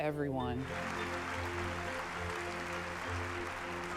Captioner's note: applause